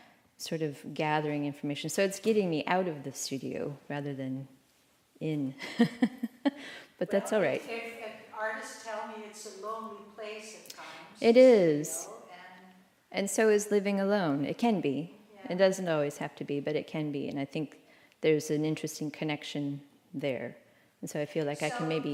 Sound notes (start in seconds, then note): 5.6 laughter